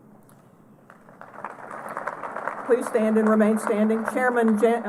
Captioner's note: applause